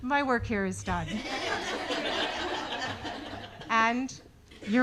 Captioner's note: audience laughing